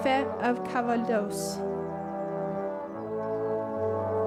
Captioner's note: speaking French